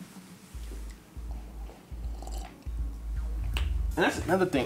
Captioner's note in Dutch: slurpt drank